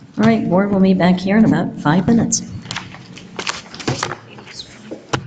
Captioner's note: papers rustle